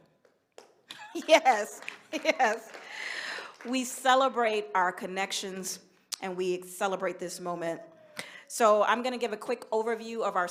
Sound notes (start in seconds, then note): 5.3 applause